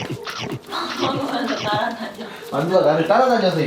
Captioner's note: laughs